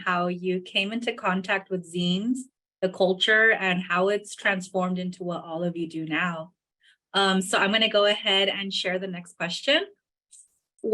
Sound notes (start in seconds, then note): none